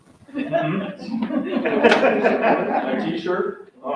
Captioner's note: audience members laugh